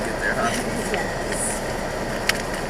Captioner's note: giggles